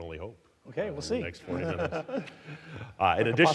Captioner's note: chuckling